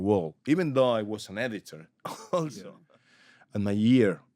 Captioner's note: laughs